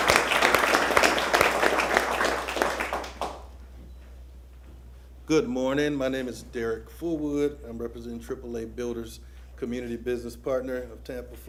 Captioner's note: applause